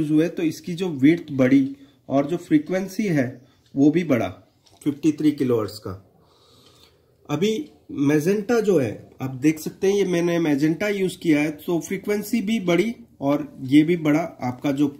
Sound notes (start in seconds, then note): 6.0 nasal sound